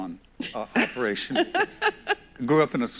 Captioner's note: both laugh